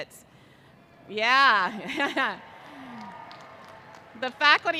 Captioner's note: undergraduates cheering